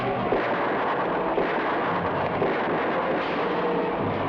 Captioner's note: gunshots blast